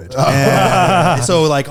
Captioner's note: laughing